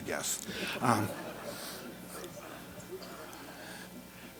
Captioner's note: audience laughter